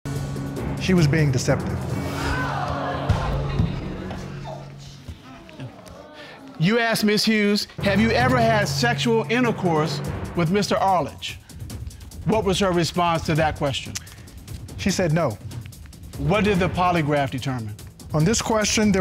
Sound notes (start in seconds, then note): 2.0 audience exclaiming